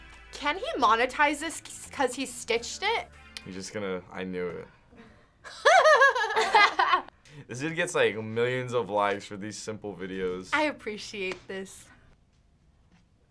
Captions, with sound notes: - Can he monetize this, 'cause he stitched it? - He's just gonna-- I knew it. - (laughs) - (laughs) - This dude gets millions of likes for these simple videos. - I appreciate this.